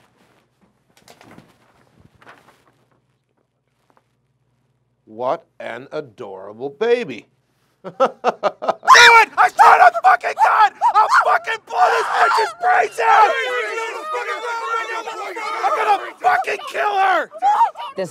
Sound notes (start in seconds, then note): 6.9 laughs; 13.5 policeman yelling